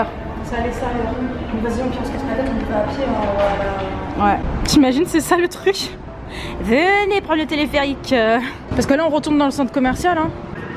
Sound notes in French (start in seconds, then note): 6.5 voix de forain